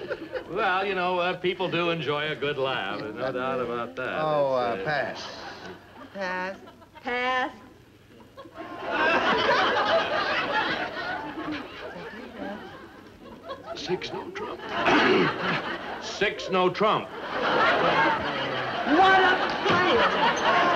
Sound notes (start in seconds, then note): 8.3 audience laughs; 14.8 clears throat; 17.6 audience laughs